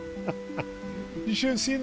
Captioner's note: laughing